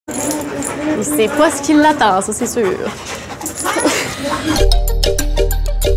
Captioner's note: laughter